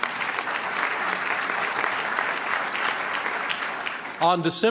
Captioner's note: applause